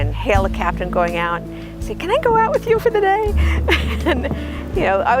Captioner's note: laughs